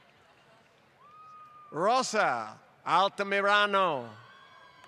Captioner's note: applause